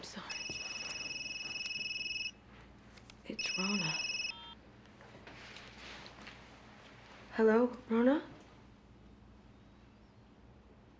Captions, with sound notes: It's Rona. (PHONE BEEPS) Hello, Rona?